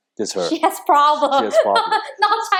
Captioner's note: laughs